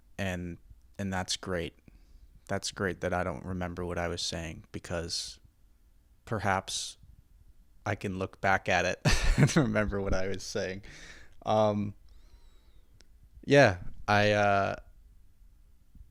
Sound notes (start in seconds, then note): 9.1 chuckles in embarrassment